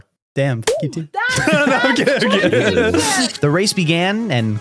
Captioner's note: laughing